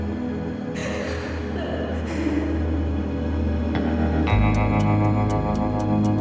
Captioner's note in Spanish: Sollozos